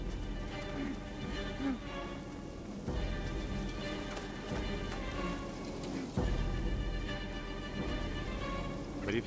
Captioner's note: grunts